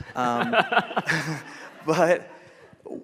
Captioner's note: audience laughing